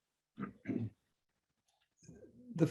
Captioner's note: throat clearing